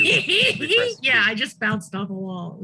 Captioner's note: laughing